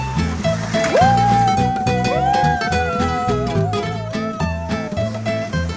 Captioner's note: cheering